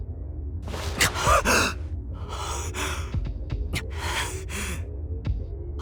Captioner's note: labored breathing